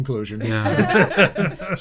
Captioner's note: laughing